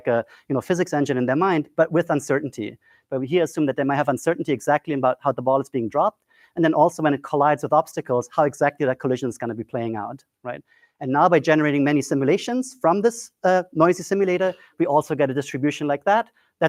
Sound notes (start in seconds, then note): none